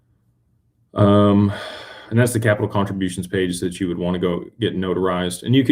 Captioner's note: sighs and gasps